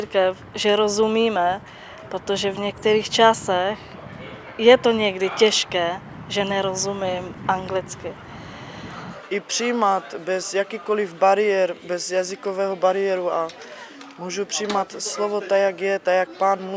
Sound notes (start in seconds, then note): 9.6 speaks in own language